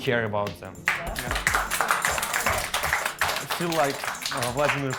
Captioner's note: applause